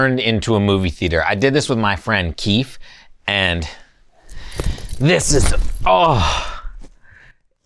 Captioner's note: exhales